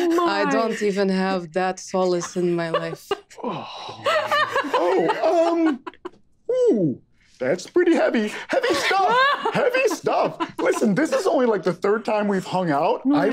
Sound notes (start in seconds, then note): 3.9 group laughing